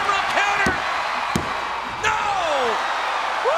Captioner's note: referee tapping